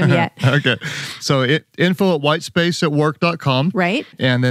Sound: laughs

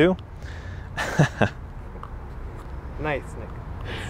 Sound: laughing

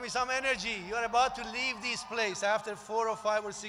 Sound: applause

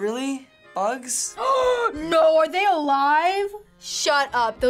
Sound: gasping

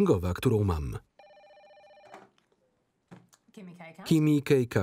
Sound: phone rings

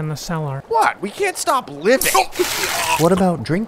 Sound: chokes on water

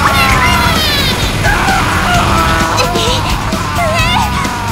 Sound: more pain

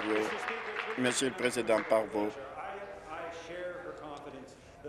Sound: applause

